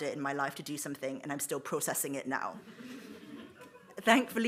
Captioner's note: audience laughs